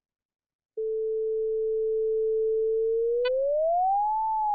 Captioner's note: flat tone, rises, decreases